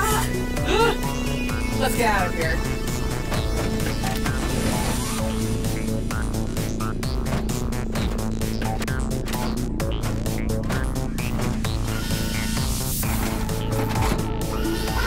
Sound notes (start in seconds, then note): 0.6 Mytra and Luna gasp; 3.6 footsteps clanging